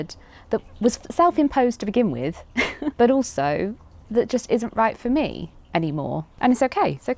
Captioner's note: laughs